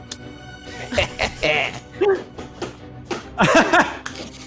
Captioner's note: laughs; laughs